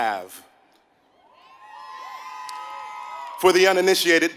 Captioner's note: applause